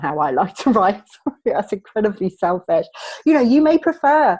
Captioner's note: laughing